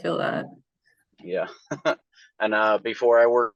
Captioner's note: chuckles